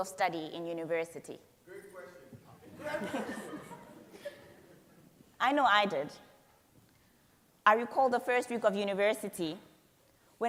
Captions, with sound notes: of study in University? - Great question. (all laughing) - I know I did. I recall the first week of University